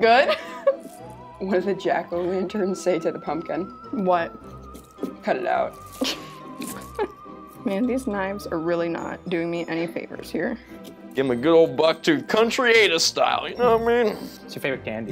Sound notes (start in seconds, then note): 0.0 silent laughs; 5.8 laughs